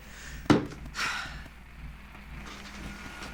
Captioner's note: exhales deeply; vile thuds